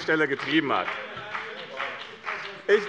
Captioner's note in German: Beifall bei dem BÜNDNIS 90/DIE GRÜNEN - Widerspruch bei der FDP